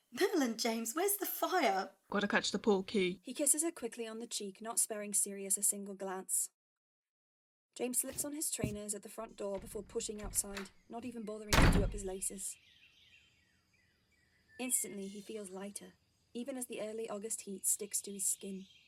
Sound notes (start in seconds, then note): 11.4 door closing; 12.7 birds chirping